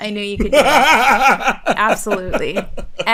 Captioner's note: laughter